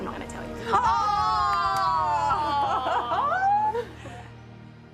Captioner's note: laugh